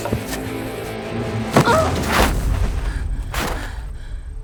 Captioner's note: rock thuds